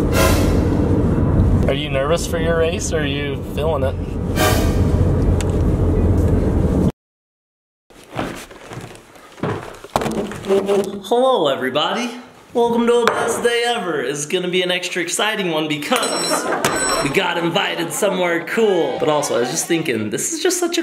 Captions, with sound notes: (dramatic tune) Are you nervous for your race or are you feeling it? (dramatic tune) (door clicks) (chair screeches) Hello, everybody. Welcome to the Best Day Ever. It's gonna be an extra exciting one, because we got invited somewhere cool. But, also, I was just thinking this is just such